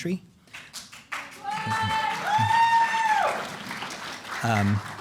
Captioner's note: cheers, applause